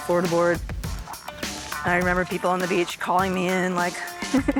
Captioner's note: laughter